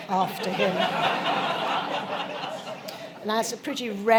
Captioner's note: laughter